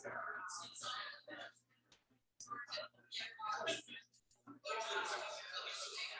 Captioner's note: people chattering indistinctly